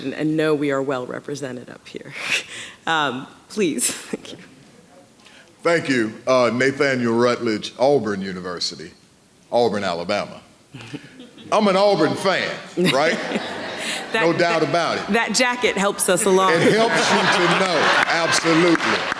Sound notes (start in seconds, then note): 12.7 audience laughing